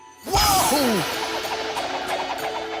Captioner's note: pop